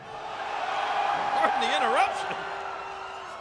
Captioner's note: audience cheering